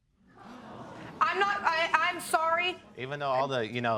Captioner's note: stammers